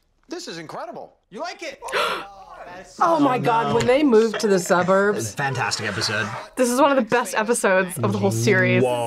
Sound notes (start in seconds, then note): 1.8 gasps